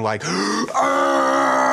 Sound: guttural groaning; inhales sharply

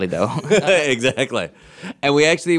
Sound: laughing

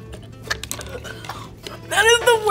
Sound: coughs

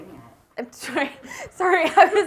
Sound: laughing

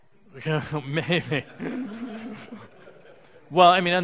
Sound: audience laughing

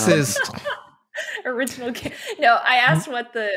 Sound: laughs

